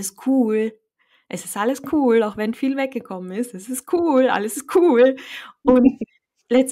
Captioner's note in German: lachen